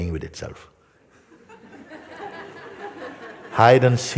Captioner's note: Lachen